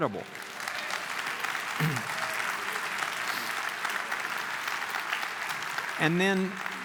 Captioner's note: clapping